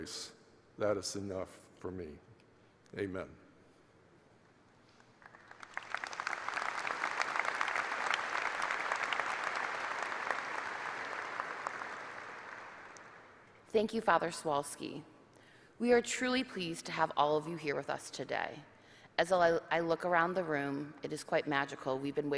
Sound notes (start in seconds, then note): 5.0 applause